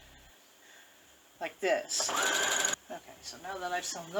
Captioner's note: sewing machine running